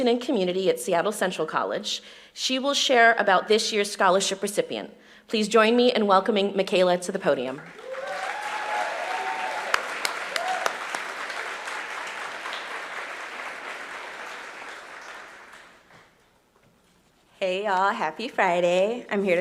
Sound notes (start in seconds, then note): 11.1 applause